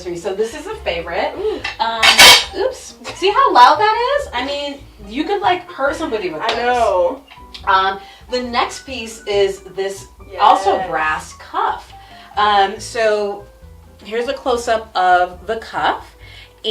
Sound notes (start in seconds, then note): 2.0 brass clangs